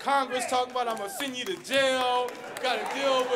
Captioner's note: applause